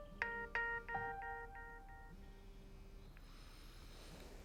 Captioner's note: phone ringing